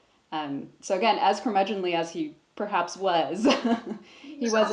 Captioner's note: chuckles